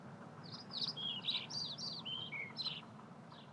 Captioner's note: birds chirping